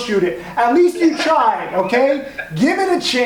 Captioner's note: laughs